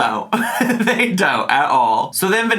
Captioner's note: laughs